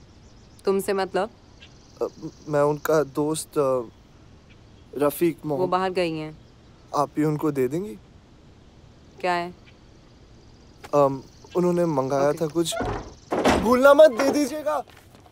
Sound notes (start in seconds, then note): 12.1 Door closing